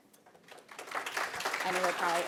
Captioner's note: applause